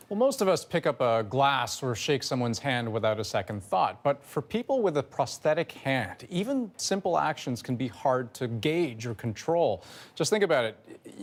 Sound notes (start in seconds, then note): none